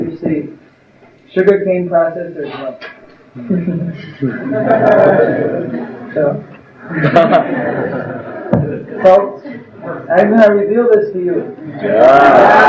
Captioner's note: laughter